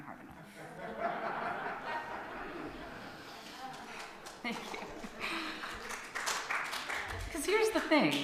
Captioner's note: laughter and applause from audience